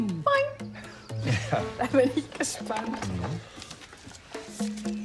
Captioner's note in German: kichernd; Freundliche Musik